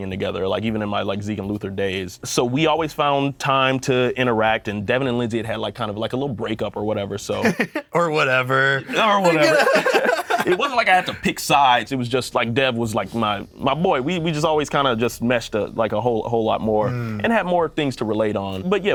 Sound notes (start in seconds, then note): 7.4 laughs; 8.8 both laugh